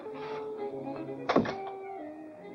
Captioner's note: playful music; door closes; playful music